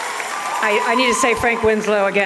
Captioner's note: applause and cheers